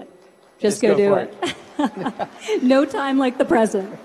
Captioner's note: laughs